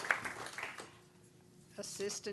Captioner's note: applause